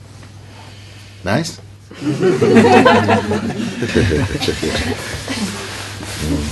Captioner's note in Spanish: Risas